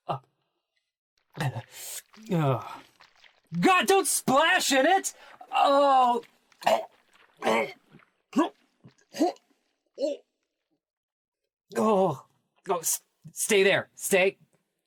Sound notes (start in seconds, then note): 2.5 sloshing sounds; 7.2 continued noises of disgust